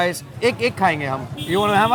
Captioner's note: speaks in Hindi